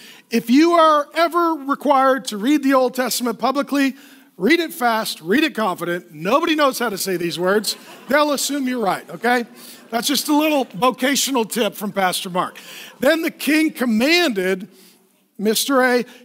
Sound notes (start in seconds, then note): 9.4 laughing